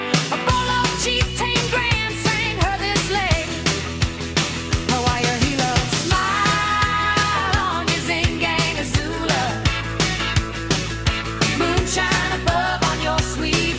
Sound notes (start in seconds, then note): 0.1 bop, bop, bop